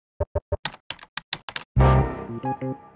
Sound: typing sounds

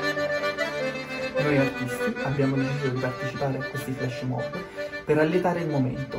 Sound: cheerful music; speaking foreign language

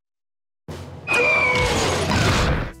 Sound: screaming

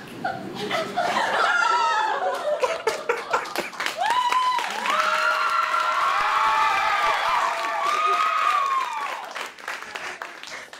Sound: Ken cries; audience cheering

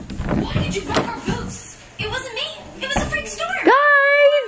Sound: iPad playing cartoons

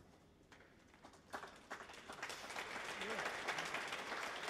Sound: audience applauds

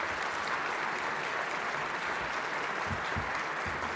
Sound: applause

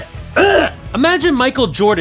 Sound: retches

